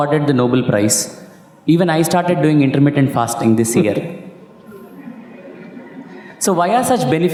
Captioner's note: Sadhguru laughs